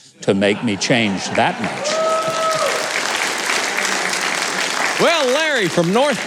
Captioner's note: audience applauding